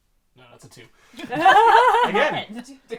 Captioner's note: laughter